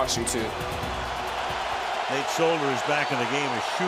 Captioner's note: cheering